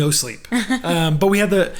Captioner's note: laughing